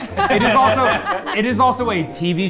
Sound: everyone laughing

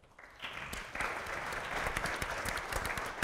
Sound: applause

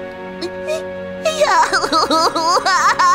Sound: Tori cries

